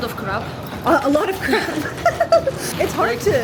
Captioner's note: laughing